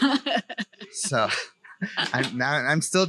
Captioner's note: laughs